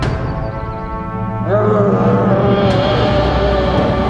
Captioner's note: yells